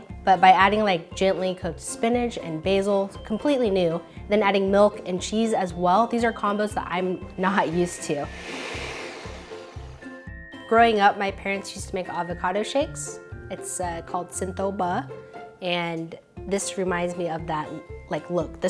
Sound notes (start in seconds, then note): 7.4 blender whirs